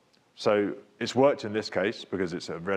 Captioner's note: speaks faintly